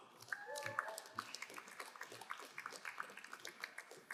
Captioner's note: crowd applauding